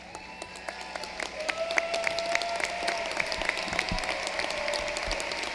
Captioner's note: applause